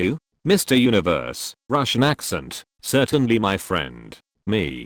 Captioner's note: russian Accent